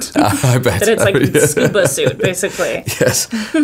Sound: laughing

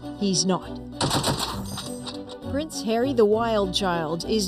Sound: heavy machinegun fire

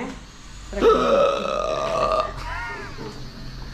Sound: speaking in Spanish; gasping

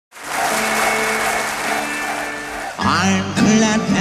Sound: audience applauds; whimsical music

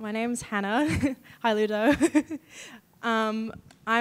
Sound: chuckles

